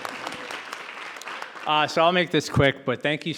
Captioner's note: audience applauding